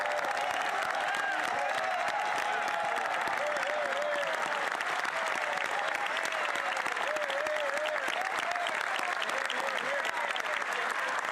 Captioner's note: cheers & Applause